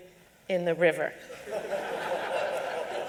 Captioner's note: laughter